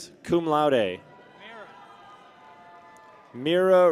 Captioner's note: people cheer